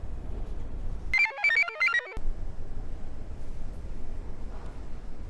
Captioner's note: computer chirps